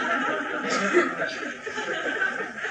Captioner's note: laughter